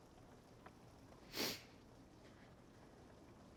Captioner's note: sniffles